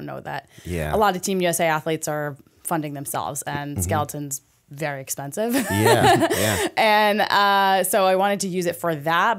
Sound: chuckle

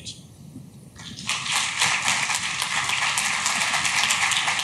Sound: clapping

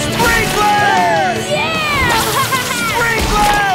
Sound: laughing

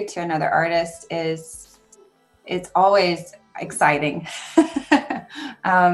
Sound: laughs

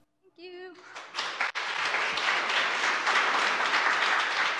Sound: audience applause

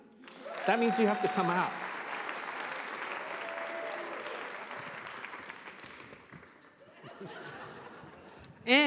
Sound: applause

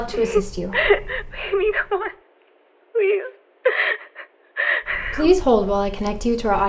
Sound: crying

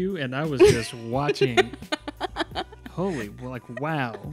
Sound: laughing

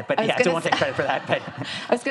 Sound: audience laughs; laughs

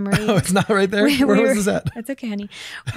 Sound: laughs

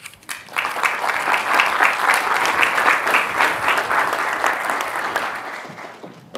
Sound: applause

